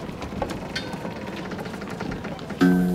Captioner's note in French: craquements